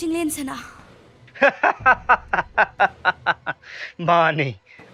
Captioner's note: laughing